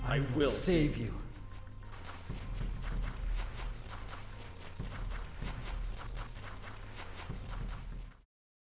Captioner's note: footsteps sound off